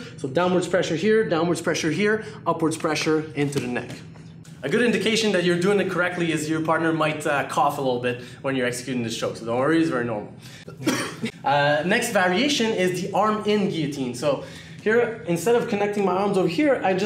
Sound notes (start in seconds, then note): 10.6 coughs